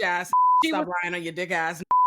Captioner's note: beep